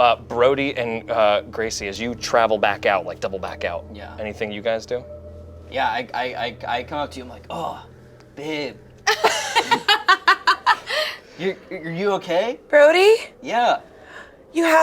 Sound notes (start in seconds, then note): 9.0 group laughs